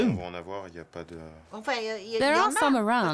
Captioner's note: both speaking French